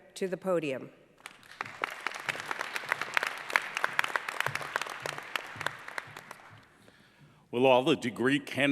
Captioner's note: applause